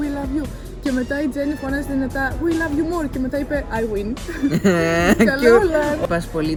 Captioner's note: giggles